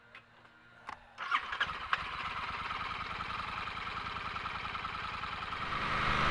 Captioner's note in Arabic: تشغيل المحرك